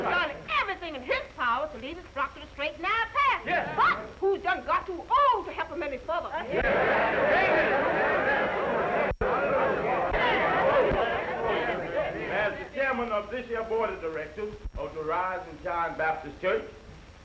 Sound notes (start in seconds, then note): 6.6 all chattering